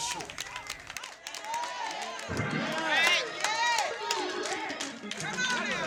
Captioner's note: crowd clapping and cheering